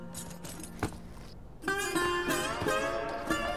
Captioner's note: boots thud; somber guitar music continues